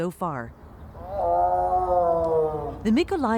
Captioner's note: tiger roaring